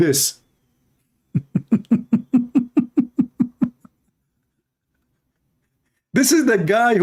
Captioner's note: Ketawa